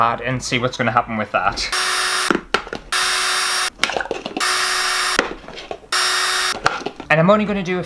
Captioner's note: drill Sounds